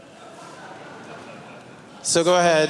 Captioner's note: laughter